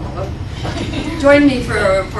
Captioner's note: laughter